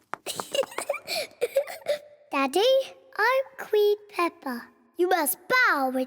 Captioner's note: giggles